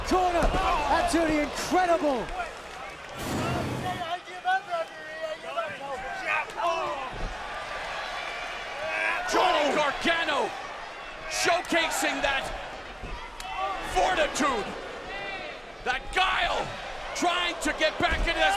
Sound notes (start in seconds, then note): 3.0 crowd chatter